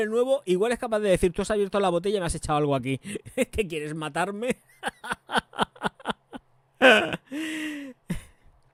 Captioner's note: laughs